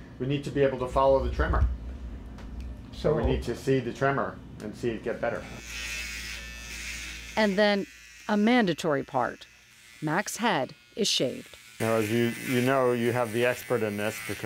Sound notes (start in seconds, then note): 5.8 razor buzzing